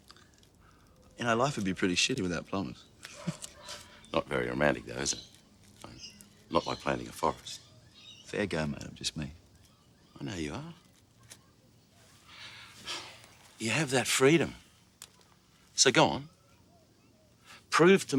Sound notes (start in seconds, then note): 3.0 laughs; 12.2 sighs